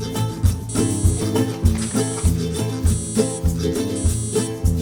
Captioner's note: alarm beeping